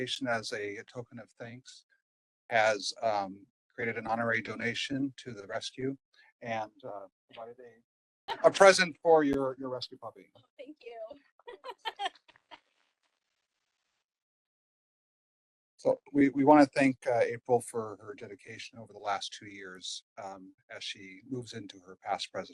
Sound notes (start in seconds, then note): 11.5 laughing and applause